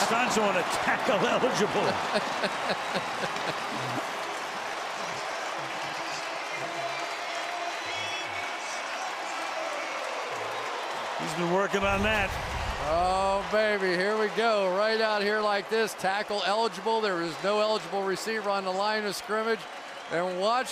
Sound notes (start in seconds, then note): 1.8 laughter; 2.7 cheering; 6.1 pa announcement